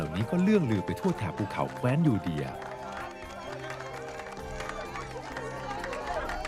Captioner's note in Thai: ปรบมือ